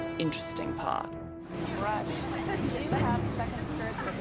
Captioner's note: people chattering